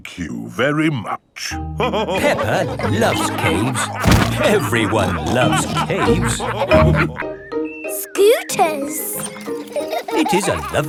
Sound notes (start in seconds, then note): 1.8 all laughing